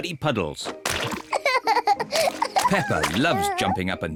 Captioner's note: giggles